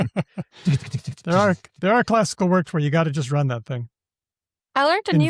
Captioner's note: laughs